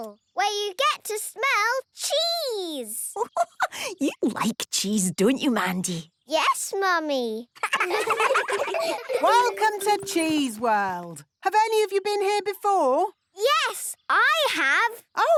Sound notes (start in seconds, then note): 3.2 giggling